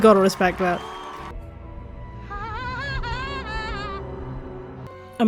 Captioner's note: Aro’s weird laugh